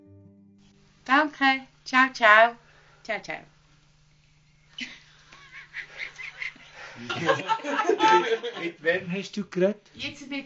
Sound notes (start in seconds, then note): 1.4 speaking Swiss German on the phone